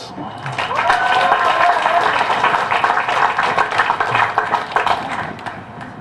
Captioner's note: applause